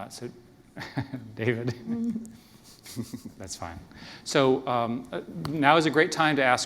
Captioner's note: laughter